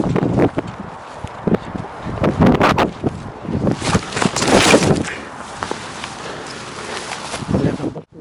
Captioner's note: hard fall